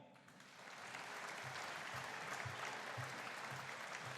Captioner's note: audience applauding